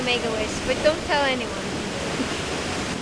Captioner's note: laughs